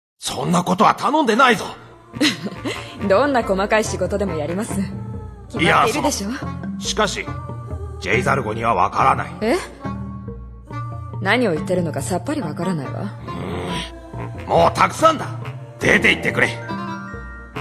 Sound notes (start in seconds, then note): 2.1 laughs; 13.2 growling